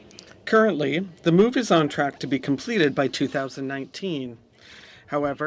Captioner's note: speaking French